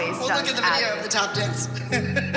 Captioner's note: giggles